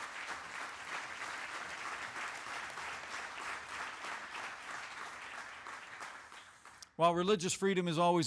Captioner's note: applause